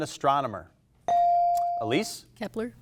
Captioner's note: buzzer chimes